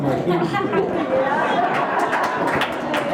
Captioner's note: group Laughs